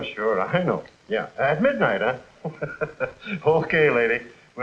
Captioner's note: laughing